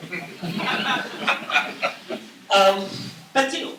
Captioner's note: laughter